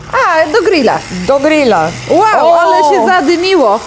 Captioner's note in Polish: terkotanie dmuchawy